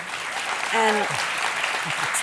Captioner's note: applause